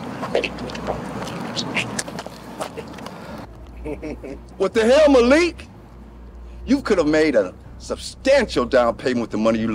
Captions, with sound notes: (Biggie giggles) - What the hell, Malik? (dramatic music) You could've made a substantial down payment with the money you lost.